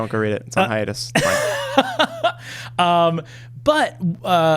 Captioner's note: laughing